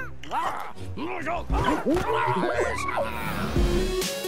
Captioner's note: jabbers crankily